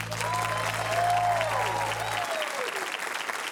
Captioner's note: cheering, applause